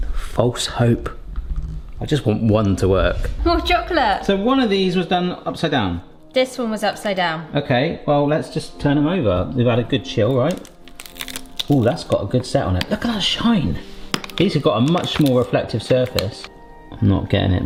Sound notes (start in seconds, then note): 10.3 plastic film crinkles